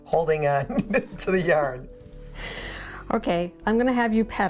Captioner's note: laughs; laughing